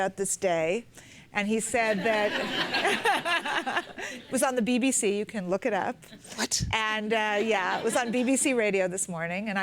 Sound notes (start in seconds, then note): 1.9 laughter